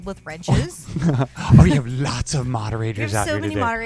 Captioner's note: laughs